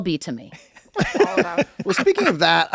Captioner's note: Glenn and Charlie laugh